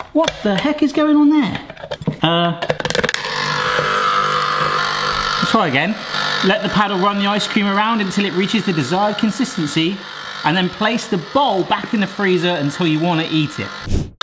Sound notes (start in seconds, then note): 3.0 ice cream maker whirring